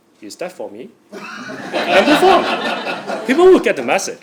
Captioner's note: laugh